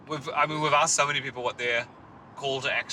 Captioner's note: none